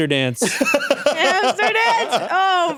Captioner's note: laughs